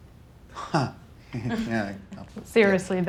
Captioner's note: chuckles